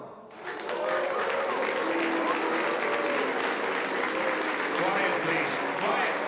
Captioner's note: members applauding; members booing